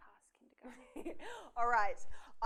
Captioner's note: laughs